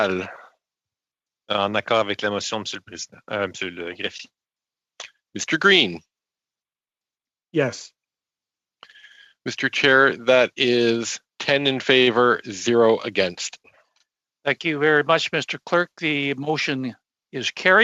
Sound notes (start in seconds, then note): 9.0 speaking in French